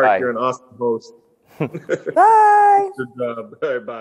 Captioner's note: laughing